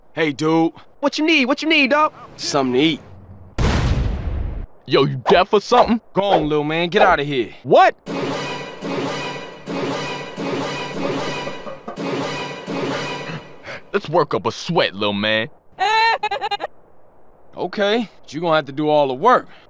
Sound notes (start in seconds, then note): 15.8 strange laugh